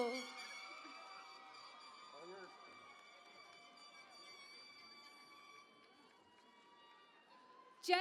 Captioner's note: cheering and Applause